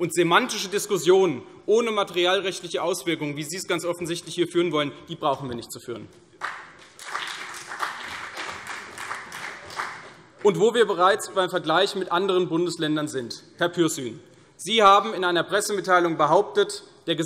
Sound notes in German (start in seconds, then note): 6.4 Vereinzelter Beifall CDU und BÜNDNIS 90/DIE GRÜNEN